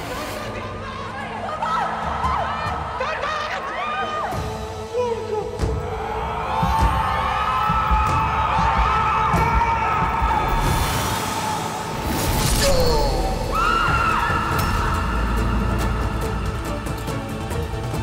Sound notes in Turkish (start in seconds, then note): 7.5 Çığlık sesleri; 12.6 Çığlık sesleri; 15.3 Müzik - Aksiyon